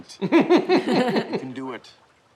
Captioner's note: both laugh